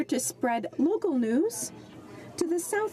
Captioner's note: speaking French